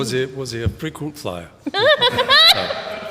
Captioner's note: laughs